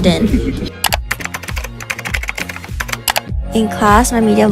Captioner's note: keyboard Clicking & Typing